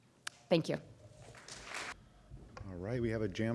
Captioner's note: applause